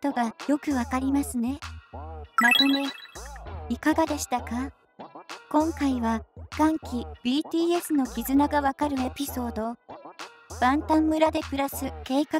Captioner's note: rejoicing